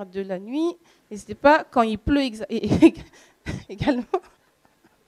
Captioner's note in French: Rires